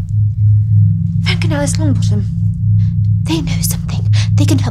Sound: Bellatrix mumbling

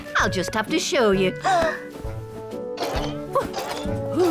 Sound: gasps

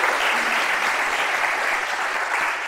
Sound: applause

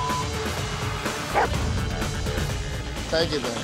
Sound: barks

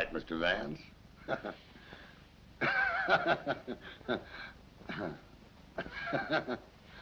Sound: laughing

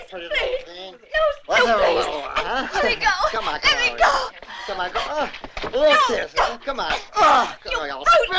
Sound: begging

